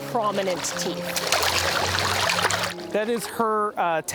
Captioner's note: water splashing